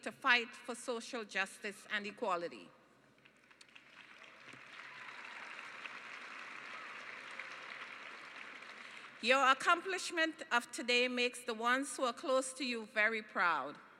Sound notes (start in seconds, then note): 3.2 applause